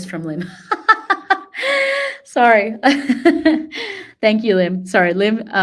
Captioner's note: laughter